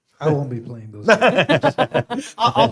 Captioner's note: laughs